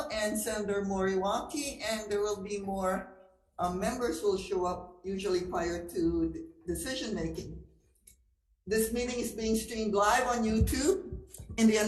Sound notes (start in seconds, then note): none